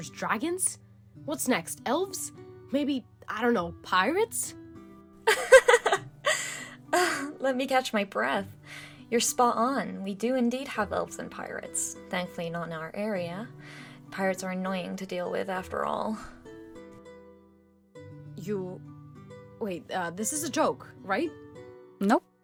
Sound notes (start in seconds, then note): 5.3 laughs